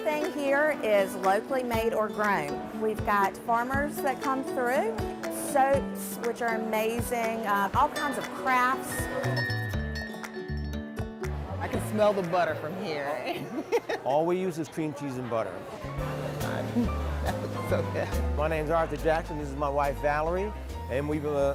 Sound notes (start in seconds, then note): 8.9 chiming bell; 14.0 laughs